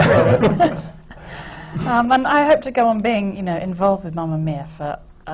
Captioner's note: laughter